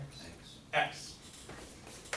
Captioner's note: voiceover